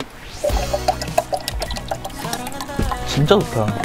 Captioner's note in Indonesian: Air mengalir ASMR